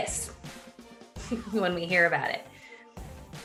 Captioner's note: chuckling